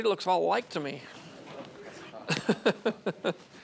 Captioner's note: animators, Laugh